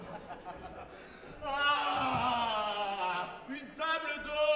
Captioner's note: GARDEFEU laughs; GARDEFEU starts to scream